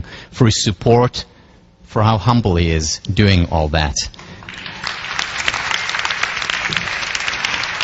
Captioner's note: applause